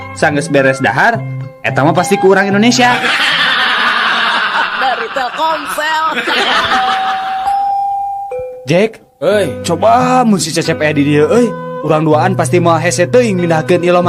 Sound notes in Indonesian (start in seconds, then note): 7.2 tertawa